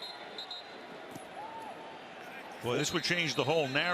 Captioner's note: whistle